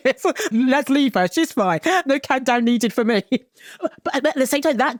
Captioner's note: chuckles